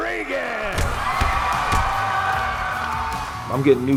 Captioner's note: audience cheering; punch and kick sounds; intense rock music